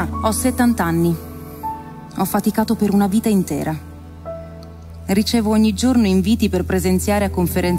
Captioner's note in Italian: voce di donna fuori campo